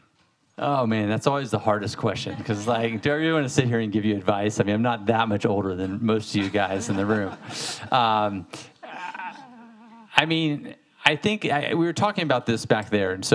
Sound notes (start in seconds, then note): 6.3 audience laughing